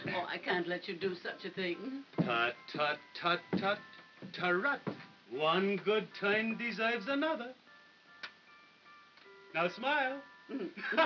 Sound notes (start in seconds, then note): 8.2 kiss smooches; 10.5 laughing